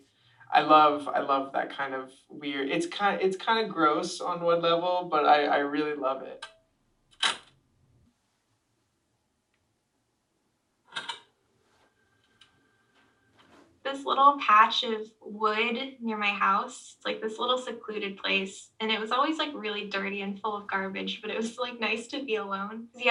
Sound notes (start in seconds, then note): 7.2 sound of tape ending; 10.9 sound of tape starting